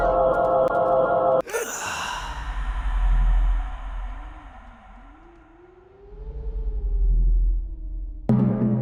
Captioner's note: heavy sigh; howling wind